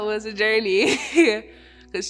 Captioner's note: laughing